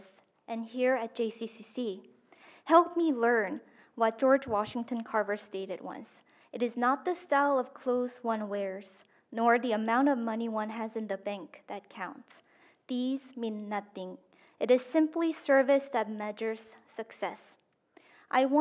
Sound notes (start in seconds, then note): none